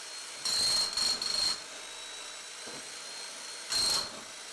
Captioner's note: jackhammer pounding